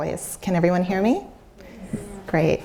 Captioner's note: audience murmurs